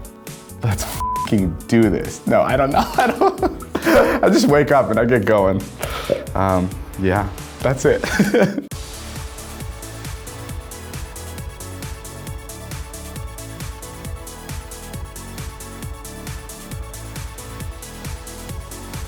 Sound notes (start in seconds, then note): 0.9 beep; 8.8 upbeat music